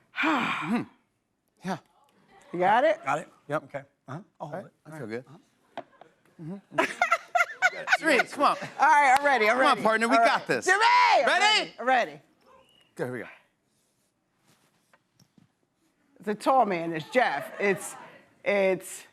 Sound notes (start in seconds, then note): 6.7 Cirie laughs